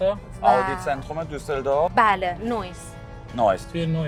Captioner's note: speaking in German